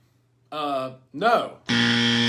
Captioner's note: buzzer ringing